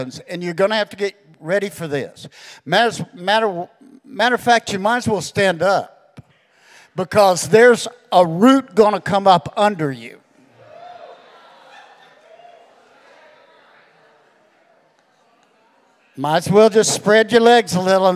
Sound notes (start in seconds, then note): 10.4 congregation cheering